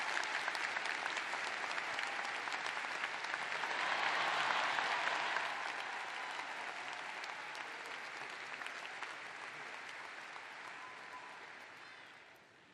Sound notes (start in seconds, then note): 0.0 cheers and applause; 0.0 cheering